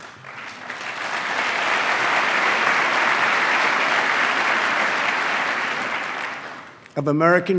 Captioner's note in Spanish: aplauso